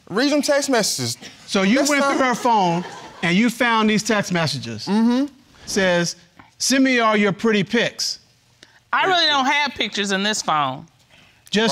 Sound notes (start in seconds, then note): 1.8 audience laughing